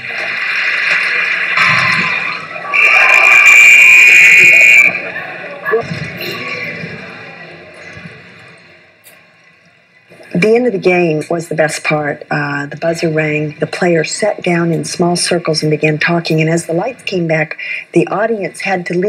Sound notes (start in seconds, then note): 0.5 applause; 3.4 whistle